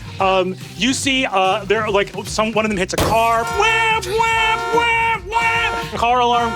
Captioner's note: mimics car alarm blaring